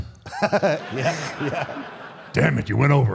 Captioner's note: AJ laughs; audience laughs